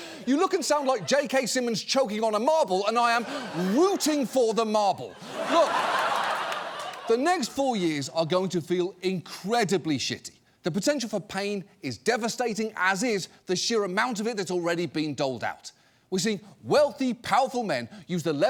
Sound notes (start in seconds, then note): 3.0 audience laughing